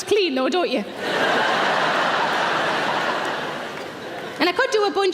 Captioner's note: audience laughing